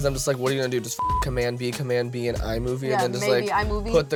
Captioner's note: beep